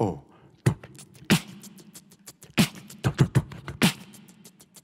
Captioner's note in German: Er macht Beatbox-Geräusche